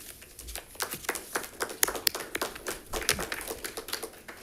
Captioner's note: audience applauding